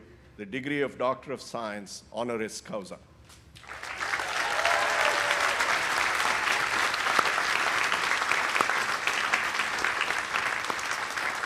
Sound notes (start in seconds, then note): 3.6 audience applauding